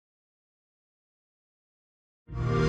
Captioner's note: xbox sound